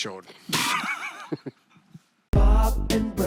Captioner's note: both laughing